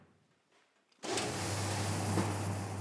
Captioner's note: hissing